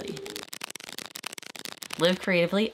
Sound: paper scraping

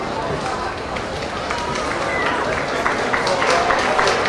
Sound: clapping

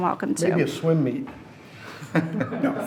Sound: laughs

